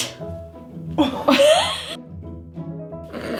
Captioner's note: laughs